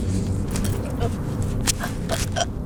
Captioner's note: Sarah choking